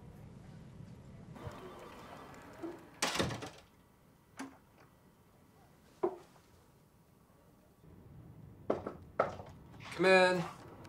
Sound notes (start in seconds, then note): 8.7 knocking